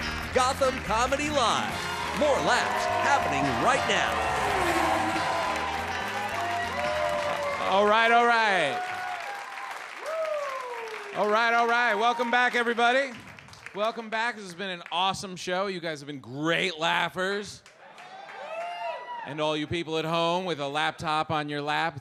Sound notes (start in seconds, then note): 4.4 engine revs; 6.1 audience cheers; 17.8 audience cheers